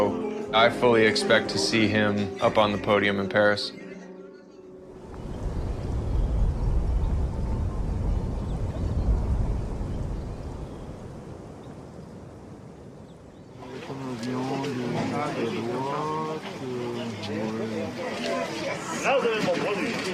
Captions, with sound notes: I fully expect to see him up on the podium in Paris. [wind blowing] [birds chirping] [indistinct chattering]